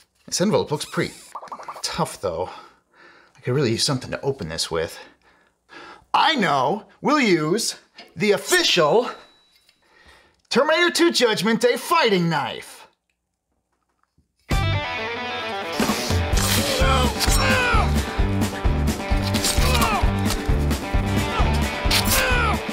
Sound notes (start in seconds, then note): 18.9 exaggerated hacking and slashing sounds